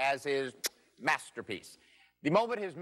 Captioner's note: kisses